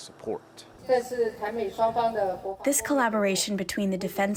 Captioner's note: through translator